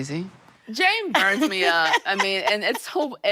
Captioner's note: laughing